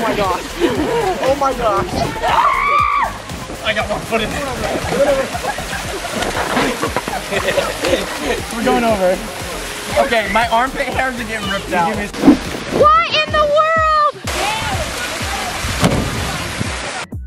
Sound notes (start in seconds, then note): 2.3 screaming